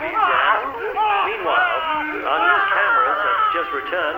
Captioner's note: screaming